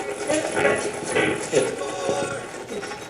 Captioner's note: radio voice